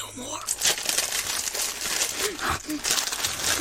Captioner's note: violently eating saltines